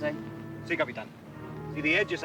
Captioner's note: Ramirez speaks Spanish